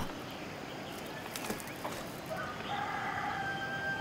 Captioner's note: rooster crows